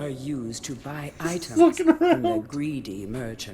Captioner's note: laughs